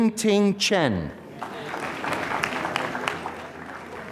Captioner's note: applause